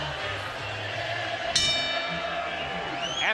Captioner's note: bell dings